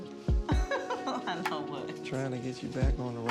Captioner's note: laughing